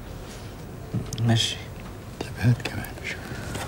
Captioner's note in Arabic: يتحدث باللغة الأجنبية